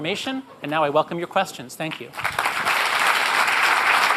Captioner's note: applause